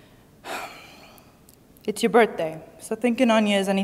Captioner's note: sighs